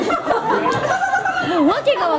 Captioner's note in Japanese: 笑い声